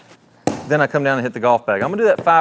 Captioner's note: club smacking